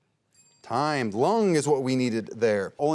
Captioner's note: bell dings